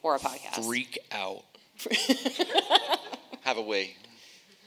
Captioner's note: laughing